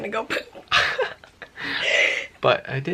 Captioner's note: laughter